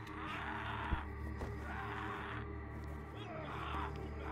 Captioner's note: yelling